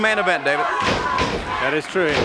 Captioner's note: body thudding